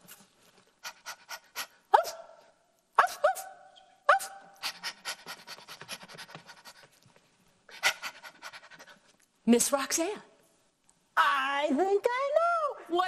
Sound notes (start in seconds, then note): 2.1 barking; 4.6 panting